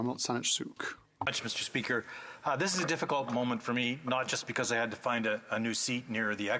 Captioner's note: speaking French